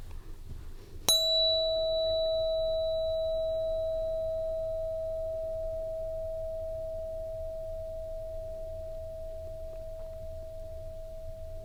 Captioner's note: bell Ring